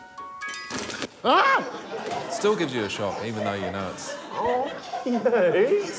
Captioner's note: music box chimes; screams